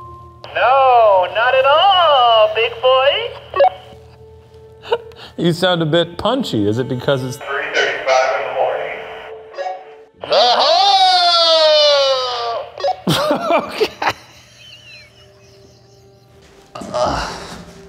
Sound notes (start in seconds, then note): 4.8 laughs; 15.1 laughing